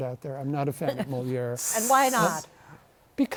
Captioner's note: hisses